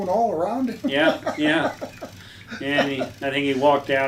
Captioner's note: laughs